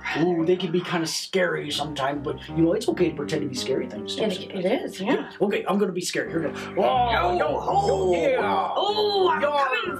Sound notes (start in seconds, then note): 7.5 growls